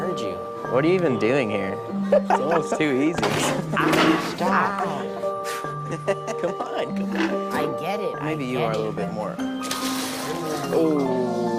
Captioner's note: laughing